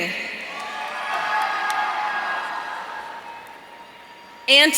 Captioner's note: audience cheering